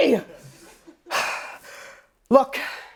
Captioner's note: sighing